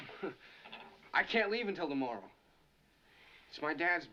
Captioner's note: chuckles